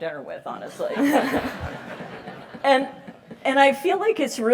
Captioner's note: laugh